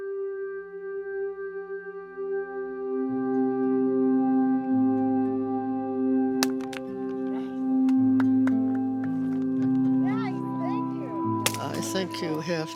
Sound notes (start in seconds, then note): 6.4 whacking; 10.4 clapping